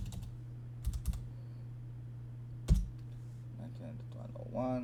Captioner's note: click...clack...typing...clack